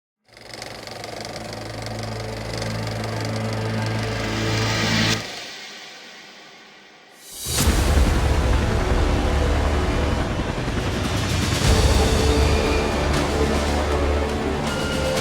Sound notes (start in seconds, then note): 0.4 projector whirring; 1.8 soft music; 7.1 suspenseful orchestral music